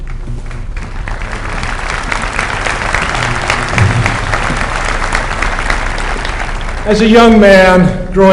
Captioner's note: applause